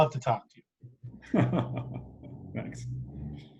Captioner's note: laughing